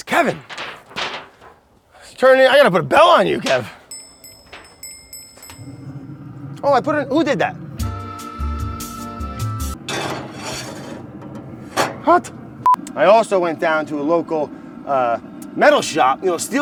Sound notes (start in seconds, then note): 3.4 bell ringing; 7.9 lounge music